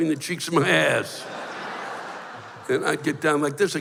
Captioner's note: laughter